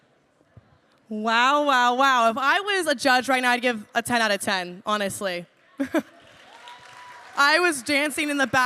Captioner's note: applause; laughs